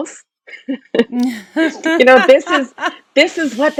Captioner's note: laugh